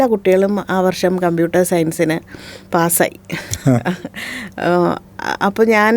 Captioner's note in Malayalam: പൊട്ടിച്ചിരി